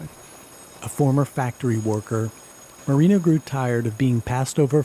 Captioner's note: voiceover